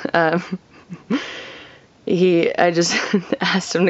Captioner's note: chuckling